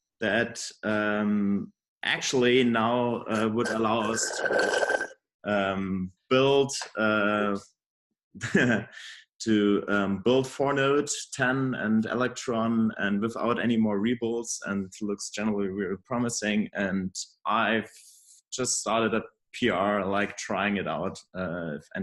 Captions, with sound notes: that actually now would allow us to build (laughs) to build for nodes 10 and electron without anymore ripples and looks generally very promising and I've just started a PR like trying it out